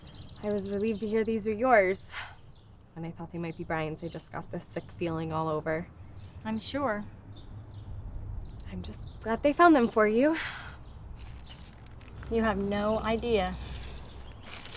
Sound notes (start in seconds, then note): none